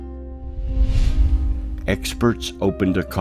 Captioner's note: bright music continues; air whooshing